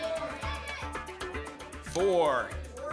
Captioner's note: audience shouting numbers